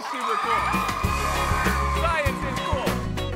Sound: audience cheers

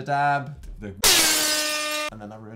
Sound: airhorn 360 blazeit

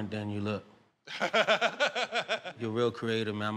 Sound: laughter

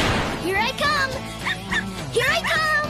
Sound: Skye Barking

